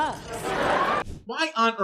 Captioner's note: audience laughs